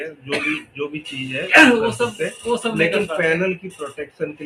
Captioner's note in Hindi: गला साफ़ करने की आवाज़